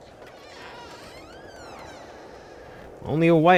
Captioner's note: door creaks